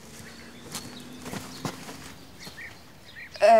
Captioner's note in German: Vogelzwitschern